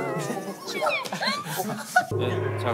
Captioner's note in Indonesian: Tidak bisa menahan tawa